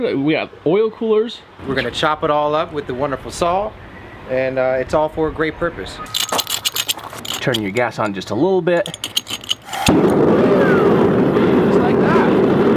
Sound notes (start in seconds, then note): 6.1 clinking; 8.8 clinking and fire roaring to life; 12.5 fire roaring